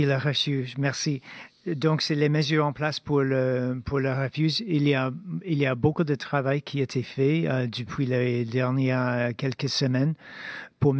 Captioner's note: speaking French